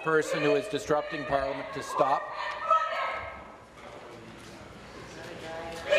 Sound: shouting voice

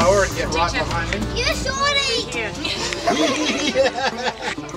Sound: laughter

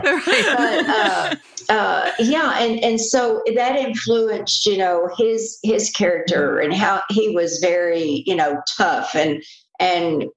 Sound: laughter

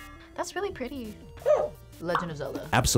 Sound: buzzer barks

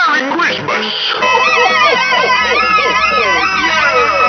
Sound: laughing

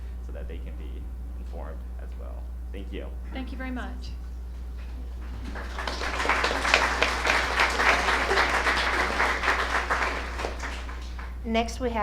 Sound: applause

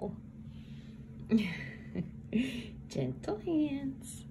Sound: parent laughing

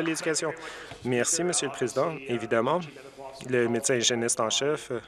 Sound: some Applause

